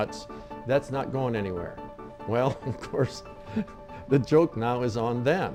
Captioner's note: laughing